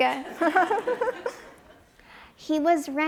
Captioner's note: audience chuckles